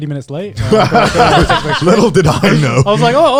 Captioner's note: guys laughing